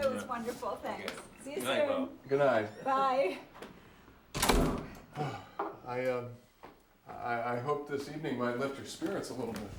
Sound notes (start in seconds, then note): 5.1 sighs